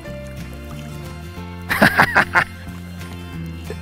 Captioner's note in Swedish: skrattar